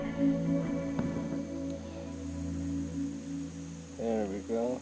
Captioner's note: insect noises